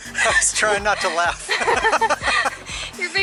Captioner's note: both laughs